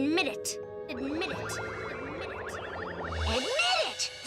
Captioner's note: Lizbeth echoing